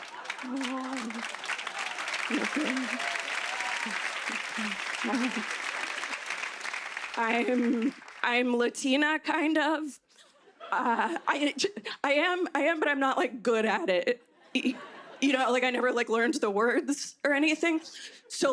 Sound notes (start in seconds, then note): 1.1 applause